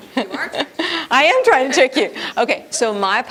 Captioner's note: laughs